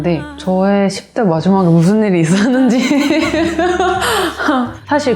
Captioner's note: laugh